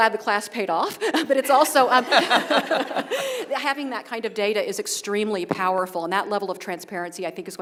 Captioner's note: laugh